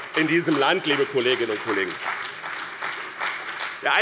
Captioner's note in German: Beifall bei dem BÜNDNIS 90/DIE GRÜNEN und der CDU